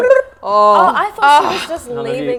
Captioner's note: sigh of relief